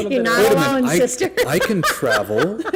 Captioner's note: laughter